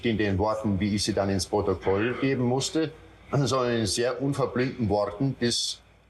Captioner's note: Eichmann continues speaking German